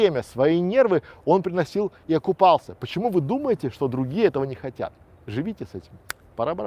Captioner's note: finger snap